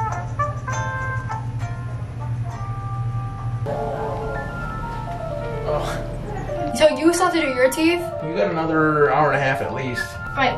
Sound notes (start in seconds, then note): 0.2 calm jazz; 6.3 laughs